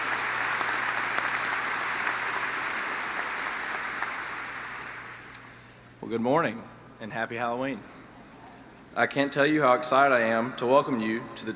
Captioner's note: applause